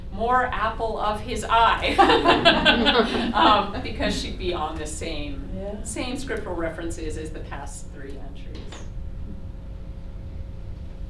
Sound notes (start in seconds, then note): 1.9 laughter